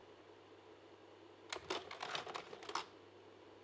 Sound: slide projector clicks

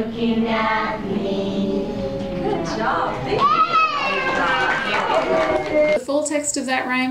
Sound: children clap

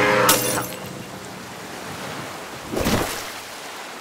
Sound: glass smashing

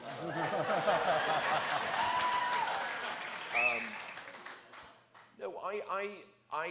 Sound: applause; whistles

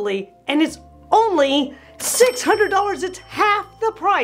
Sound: bell rings

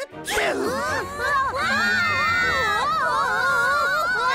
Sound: all screaming

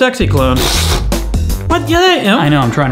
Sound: blows raspberries

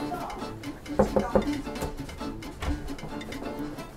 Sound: knock

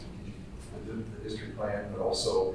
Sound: speaking off microphone

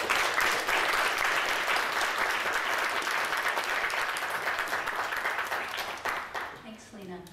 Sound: applause

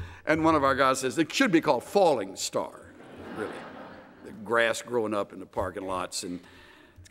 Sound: laughter

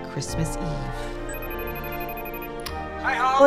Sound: phone rings

